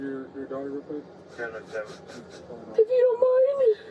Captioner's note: radio chatter